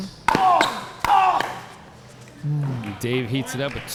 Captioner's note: ball being smacked; players grunting